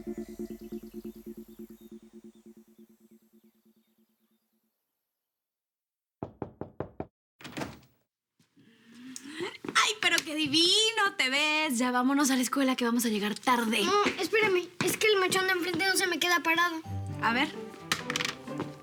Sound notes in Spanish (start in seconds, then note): 6.2 Toques en la puerta